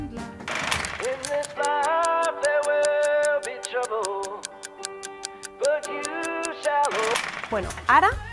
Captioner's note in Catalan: tic-tac